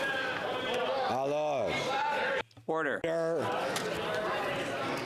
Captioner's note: some Applause